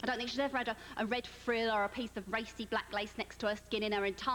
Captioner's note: none